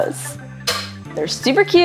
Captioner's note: light music; thudding